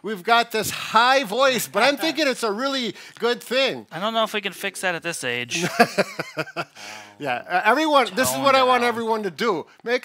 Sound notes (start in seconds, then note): 5.5 laughs